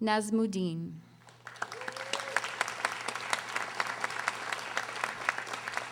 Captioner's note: audience applauding